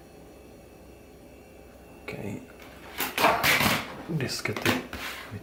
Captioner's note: removing floppy disks from drives